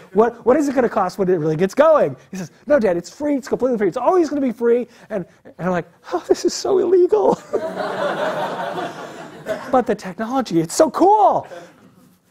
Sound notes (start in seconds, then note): 7.3 laugh